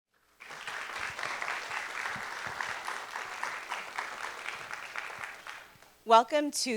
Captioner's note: applause